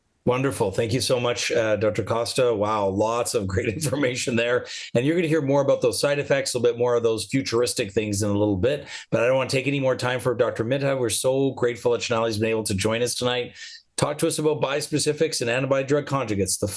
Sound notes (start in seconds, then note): 3.5 chuckles